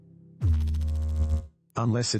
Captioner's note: electrical noise